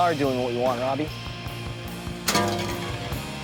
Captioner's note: clatters